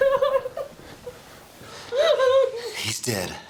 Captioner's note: crying